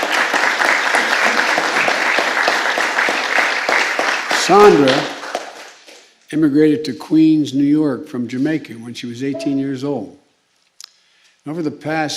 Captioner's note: applause